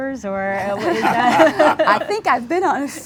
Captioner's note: laughter